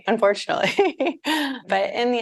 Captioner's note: chuckling